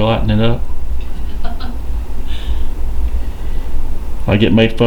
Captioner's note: laughing